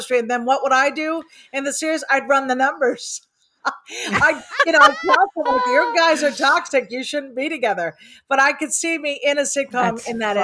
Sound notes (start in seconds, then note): 3.7 laughs; 4.0 group laughing